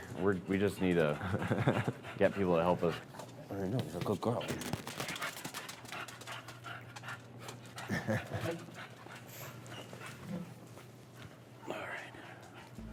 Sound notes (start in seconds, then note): 4.9 dog panting; 7.7 chuckles